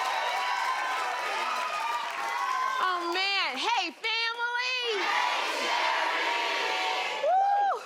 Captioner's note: cheers and applause